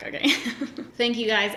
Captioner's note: laughs